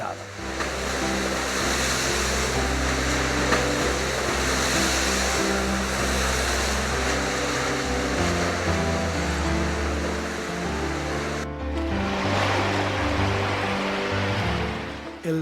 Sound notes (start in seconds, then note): 2.6 sound of waves